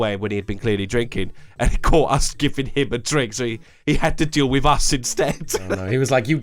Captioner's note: laughs